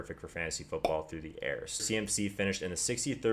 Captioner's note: pop